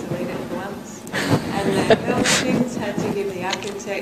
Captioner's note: laughter